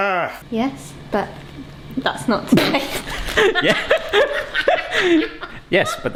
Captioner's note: laughing